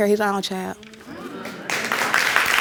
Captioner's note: applauding